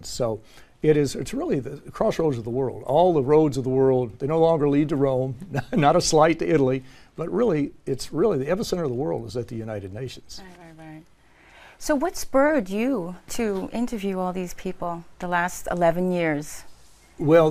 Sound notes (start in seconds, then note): 5.4 laugh